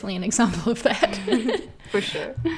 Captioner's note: laughs